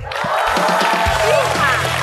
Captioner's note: applause